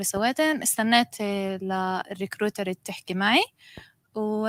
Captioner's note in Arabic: لغة أجنبية